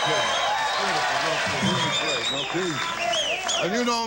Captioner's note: audience cheers